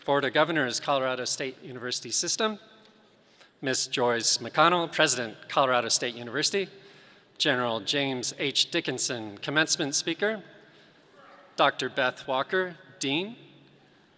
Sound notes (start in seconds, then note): none